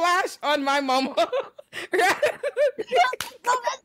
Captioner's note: laughing